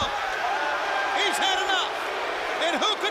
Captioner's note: crowd cheering